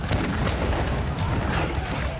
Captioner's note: gunshots